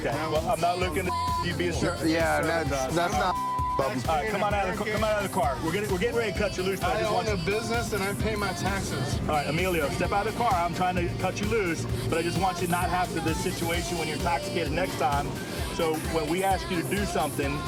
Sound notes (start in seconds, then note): 3.1 chatter